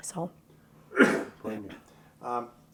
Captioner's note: coughs loudly